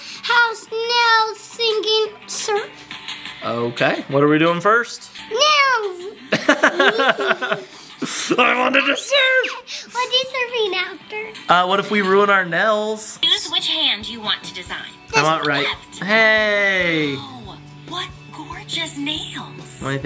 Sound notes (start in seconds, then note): 6.2 both laugh